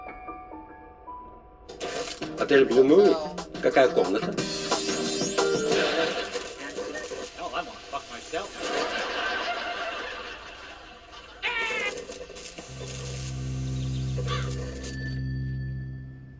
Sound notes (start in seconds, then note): 2.7 man speaking foreign language; 10.6 laughter